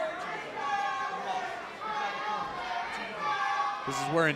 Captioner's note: fans chanting